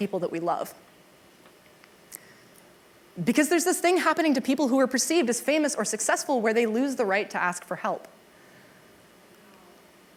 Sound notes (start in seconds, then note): none